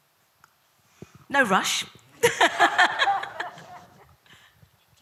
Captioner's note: laughs